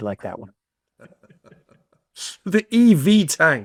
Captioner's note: attendees laughing